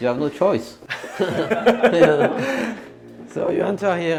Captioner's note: chuckling